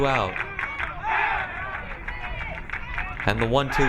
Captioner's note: crowd cheering